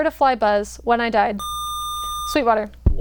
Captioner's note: buzzer